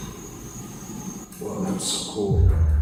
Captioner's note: distant voice